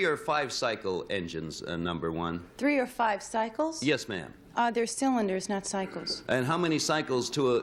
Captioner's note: none